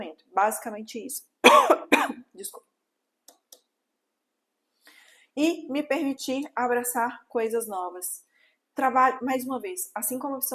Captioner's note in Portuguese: tosse